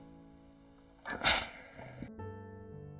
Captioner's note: puff of steam